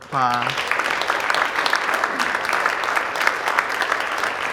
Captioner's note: audience applauding